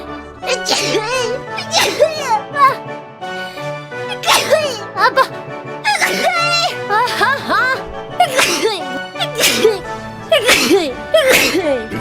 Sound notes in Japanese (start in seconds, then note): 0.4 くしゃみ; 4.0 くしゃみ